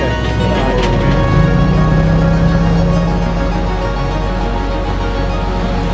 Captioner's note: motor boat whirring; water trickling